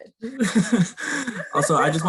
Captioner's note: laughter